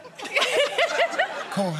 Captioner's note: laughs